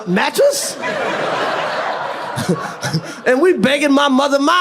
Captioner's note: audience laughs